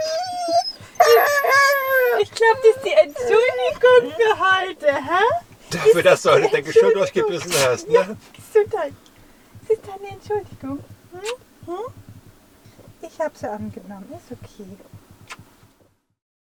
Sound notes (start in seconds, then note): 0.0 Caesar is howling and talking; 7.3 Caesar sneezed